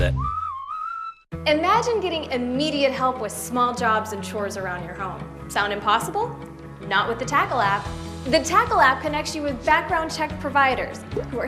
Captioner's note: AutoZone whistle